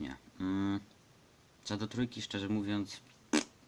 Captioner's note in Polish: piardnięcie językiem, innego słowa człowiek od napisów na to nie znajduje